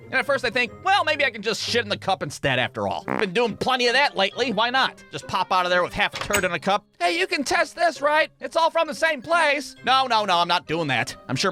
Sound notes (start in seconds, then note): 3.0 prrrt